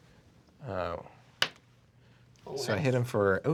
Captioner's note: rolls dice